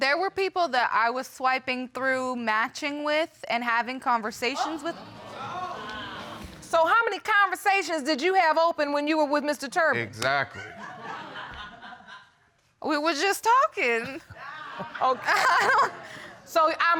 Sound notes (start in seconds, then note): 5.1 audience exclaiming; 10.5 audience laughing; 14.0 laughs